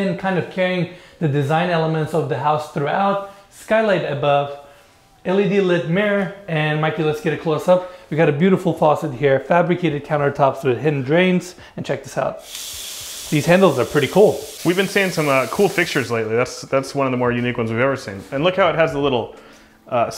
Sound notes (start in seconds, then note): 12.4 water gushing